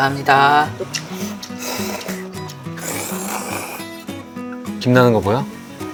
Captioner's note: slurping the ramyeon